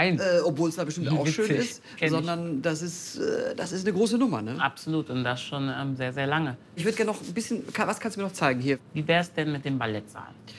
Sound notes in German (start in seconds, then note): none